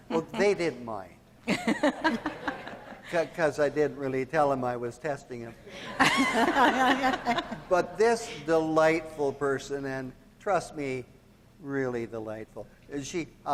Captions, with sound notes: Well, they didn't mind, 'cause I didn't really tell 'em I was testing 'em. (all laughing) But this delightful person, and trust me, really delightful.